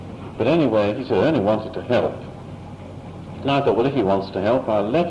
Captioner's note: none